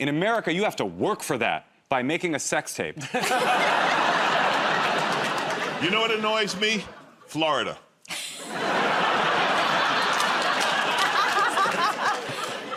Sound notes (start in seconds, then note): 3.0 laughter